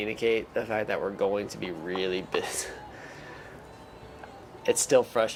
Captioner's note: laughs